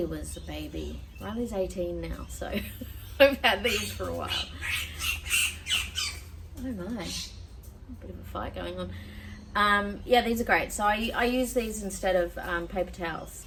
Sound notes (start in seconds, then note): 2.4 laughs; 3.6 loud bird squawking very close